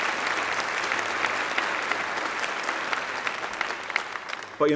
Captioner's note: applause